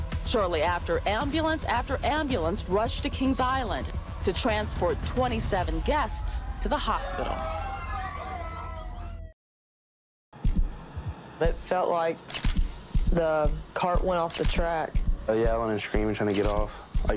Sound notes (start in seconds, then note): 8.1 sirens blaring